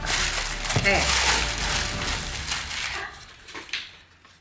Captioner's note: paper rustling